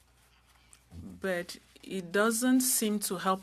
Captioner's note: speaking french